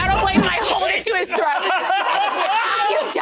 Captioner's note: shnng noise; laughter